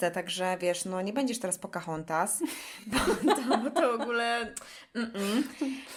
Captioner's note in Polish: śmiech